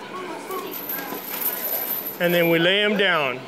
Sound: chain rattle

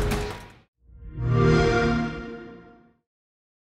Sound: xbox sound

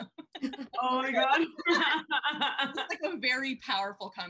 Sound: laughing

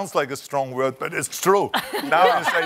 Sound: laughter

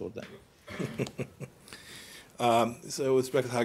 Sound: laughter

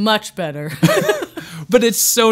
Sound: laughing

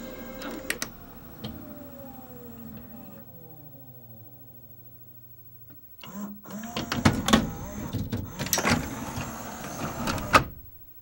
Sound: disc slowing down, machine preparing to eject

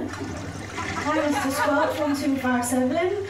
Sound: toilet flushes

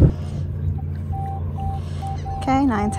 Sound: beep beep

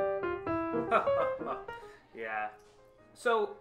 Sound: soft jazz; chuckles

